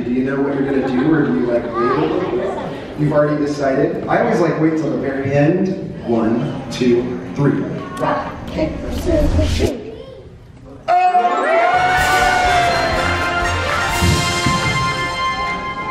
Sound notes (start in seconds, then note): 10.8 crowd cheering; 15.6 crowd laughing